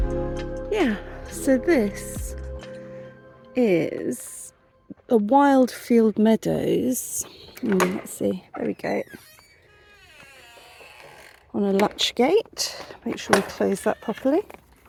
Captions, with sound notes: Yeah, so this is a wild field meadows. Hmm, let's see, [lock click] there we go. [hinge creek] On a latch gate. Make sure we close that properly.